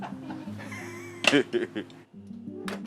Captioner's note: gentle music; laughing; gentle music